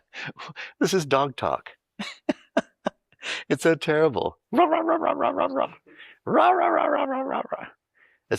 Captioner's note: makes barking noise